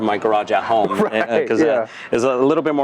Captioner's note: laughs